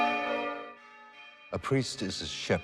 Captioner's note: bells tolling